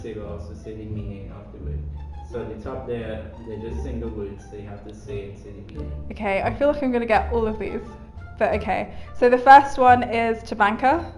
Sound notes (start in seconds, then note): 5.3 mumbles in Trini